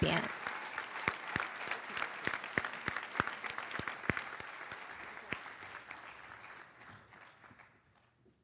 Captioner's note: applause